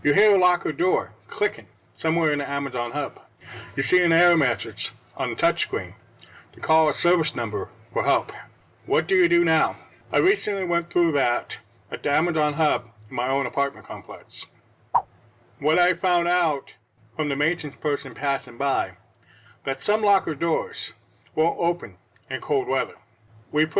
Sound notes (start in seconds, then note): 14.9 swipe Sound